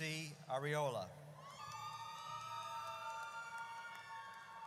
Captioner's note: audience cheers